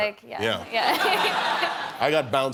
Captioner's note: laughter